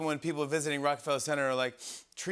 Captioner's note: sniffs